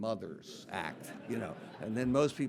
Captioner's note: audience laughing